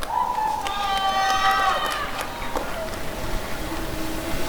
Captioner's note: applause and cheering